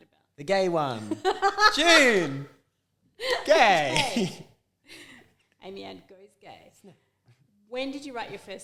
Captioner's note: laughs